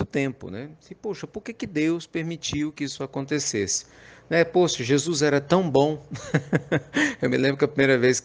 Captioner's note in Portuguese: Risos